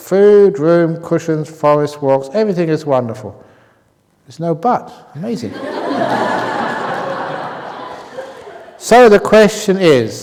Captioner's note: laughter